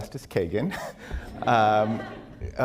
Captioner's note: laughter